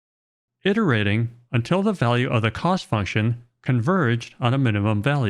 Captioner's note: none